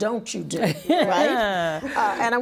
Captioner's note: laughing